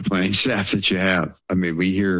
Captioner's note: chuckles